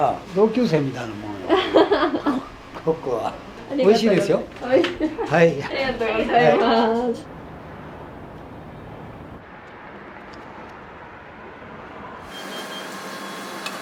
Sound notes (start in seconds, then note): 1.4 laughs; 4.6 laughs